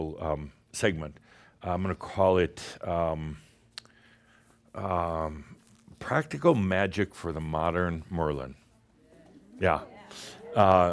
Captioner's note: audience approves